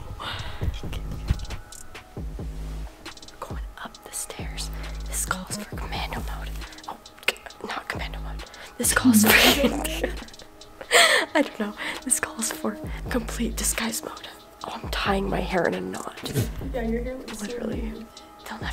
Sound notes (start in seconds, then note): 0.1 suspenseful music; 8.9 laughing